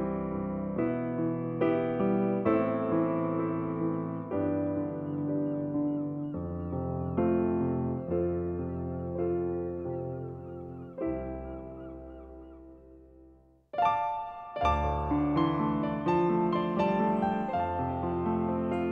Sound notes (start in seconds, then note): 0.2 gentle thoughtful music; 6.1 birds cawing; 13.7 bright upbeat music; 14.7 birds chirping